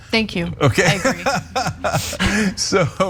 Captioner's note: laugh